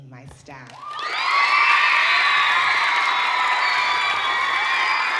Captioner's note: audience cheering